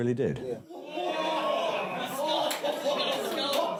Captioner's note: all chattering and laughing